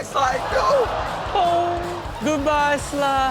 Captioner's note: audience laughs